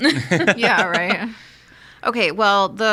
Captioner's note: all laughing